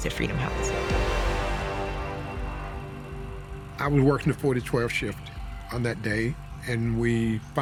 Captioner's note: tense music; ambulance blaring